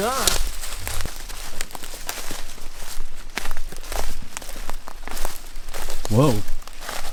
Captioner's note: footsteps pattering; leaves rustling